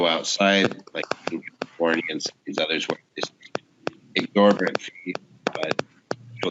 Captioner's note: extended microphone feedback blocks out all voices